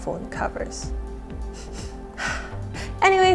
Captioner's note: sniff sniff